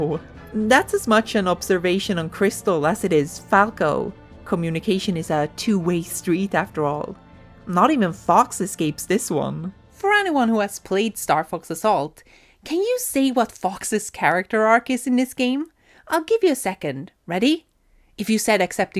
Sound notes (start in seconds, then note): none